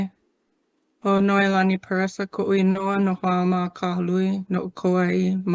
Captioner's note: speaks foreign language